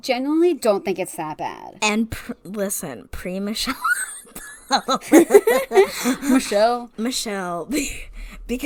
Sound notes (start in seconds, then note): 3.8 wheeze laughing